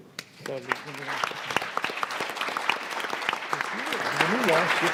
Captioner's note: audience clapping